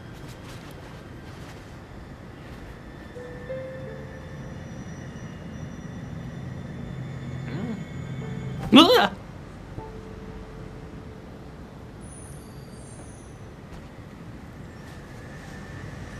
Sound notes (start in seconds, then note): 7.5 yelp